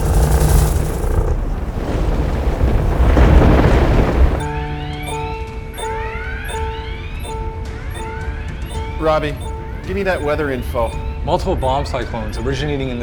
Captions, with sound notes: (alarms blaring) - Robbie, give me that weather info. - Multiple bomb cyclones originating